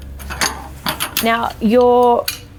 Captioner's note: poles clanging